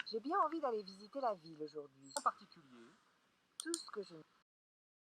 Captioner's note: conversation in French